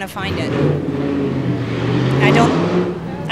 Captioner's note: street noises